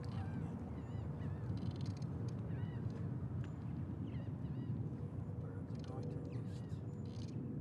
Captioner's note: none